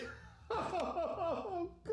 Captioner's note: sobbing